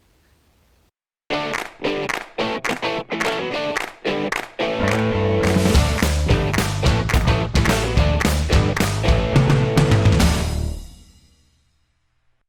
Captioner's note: claps